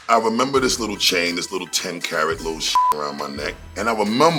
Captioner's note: beep